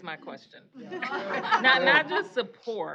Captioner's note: laughter